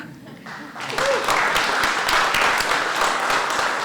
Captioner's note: applause